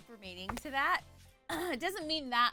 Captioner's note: clears throat